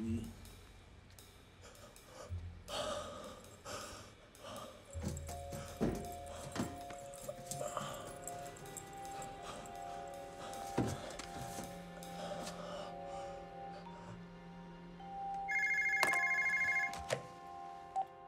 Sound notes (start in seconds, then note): 15.4 phone rings